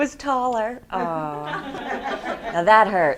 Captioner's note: students laugh